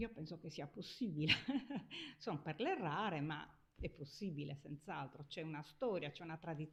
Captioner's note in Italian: risate